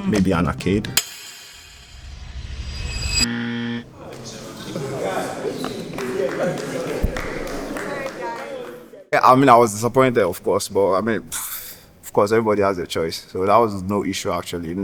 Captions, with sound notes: Maybe an arcade. [buzzer] [applause] I mean, I was disappointed, of course, but I mean, of course, everybody has their choice. So, that was no issue actually.